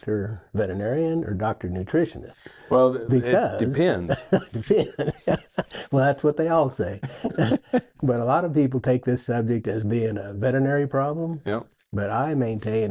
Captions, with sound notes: am I talking to doctor veterinarian or doctor nutritionist? Because... - Well, it depends. - Depends (laughs). Well, that's what they all say, but a lot of people take this subject as being a veterinary problem.